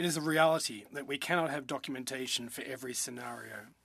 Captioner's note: speaking in French